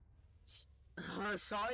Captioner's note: in European Portuguese